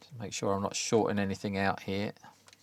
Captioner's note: none